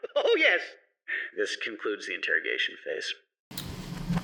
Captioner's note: sigh